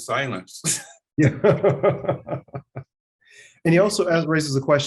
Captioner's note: laughing